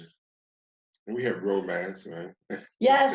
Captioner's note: chuckles